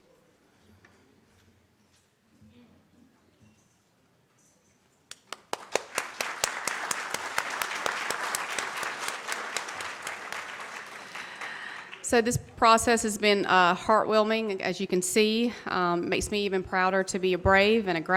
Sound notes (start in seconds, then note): 5.1 audience claps